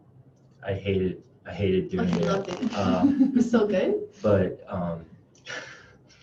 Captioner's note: laughing